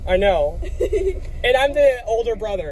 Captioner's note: Dutch Bros Employee laughs